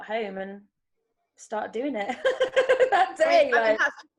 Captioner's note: chuckles